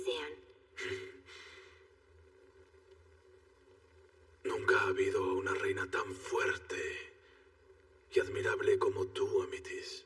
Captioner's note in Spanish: Ríe